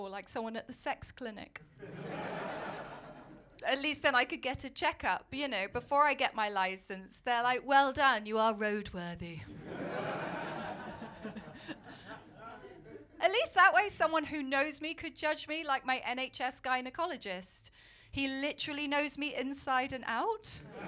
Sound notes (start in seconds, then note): 1.8 laughter; 9.5 laughter